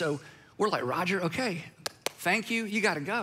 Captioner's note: clapping